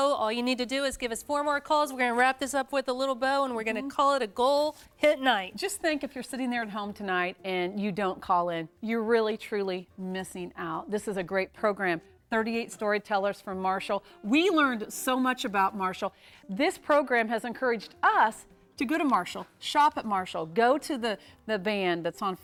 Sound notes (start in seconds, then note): none